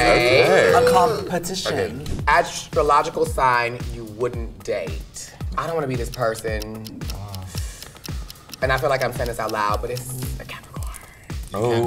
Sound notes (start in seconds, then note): 0.0 group chats excitedly; 7.0 clock ticking